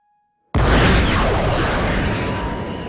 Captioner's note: loud explosion